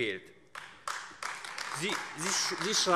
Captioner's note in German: Beifall AfD